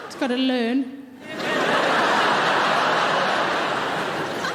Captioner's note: audience laughing